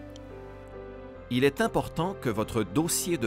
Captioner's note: Voix off masculine